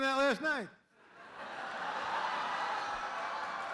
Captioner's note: laughter